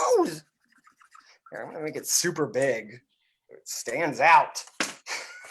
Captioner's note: laughs